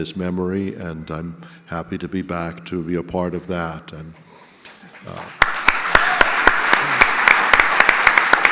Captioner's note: audience applause